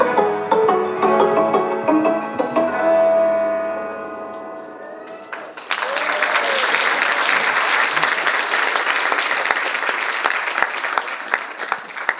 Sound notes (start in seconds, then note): 0.0 bright music; 5.0 audience applauding